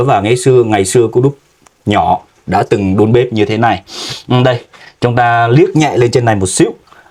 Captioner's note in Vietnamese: khịt mũi